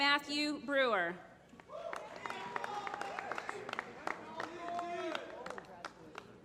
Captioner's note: applause